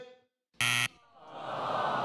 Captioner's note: scoreboard buzzes; audience awws